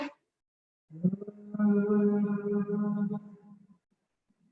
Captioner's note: humming